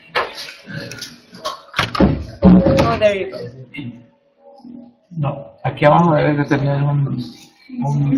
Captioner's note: students and teachers speaking in Spanish